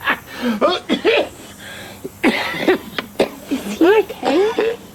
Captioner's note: both laughing; Jake coughing